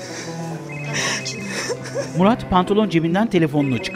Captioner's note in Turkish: Telefon zili sesi